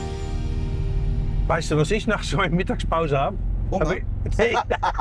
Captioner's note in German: gelächter